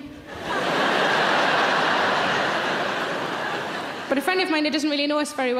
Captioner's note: audience laughing